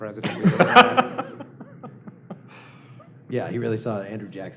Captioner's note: laughter